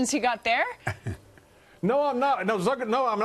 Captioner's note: laughter